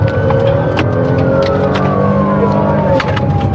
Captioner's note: sirenen b blariringn